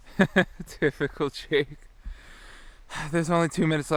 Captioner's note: laughs